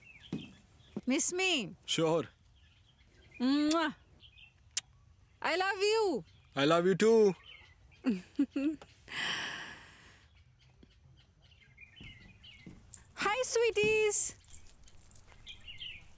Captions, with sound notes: Miss me.. Sure [Blowing Kisses] I love you.. I love you too.. Hi sweeties!